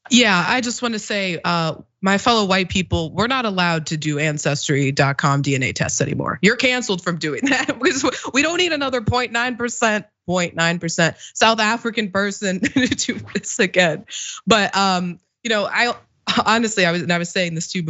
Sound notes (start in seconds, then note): 7.4 laugh